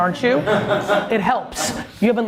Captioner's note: laughs